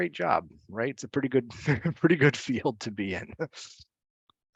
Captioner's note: laughs